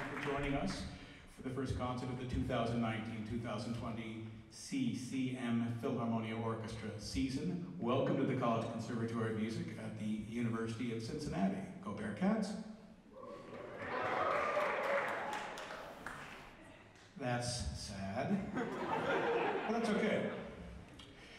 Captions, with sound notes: Thank you for joining us for the first concert of the 2019-2020 CCM Philharmonia Orchestra season. Welcome to the College Conservatory of Music at the University of Cincinnati, Go Bearcats. (some applause) That's, sad... But that's okay!